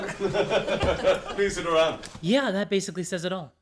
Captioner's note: all laugh